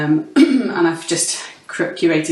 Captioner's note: clears throat